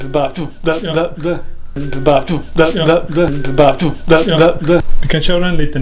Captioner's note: EVP is recorded .. Someone moaning in the room